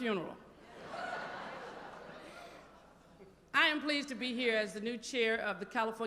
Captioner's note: laughter